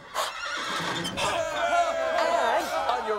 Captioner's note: crowd cheering